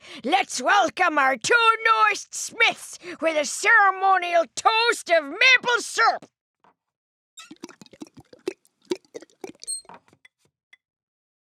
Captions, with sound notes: Let's welcome our two newest Smiths with a ceremonial toast of maple syrup! [ Squeaks, drips ]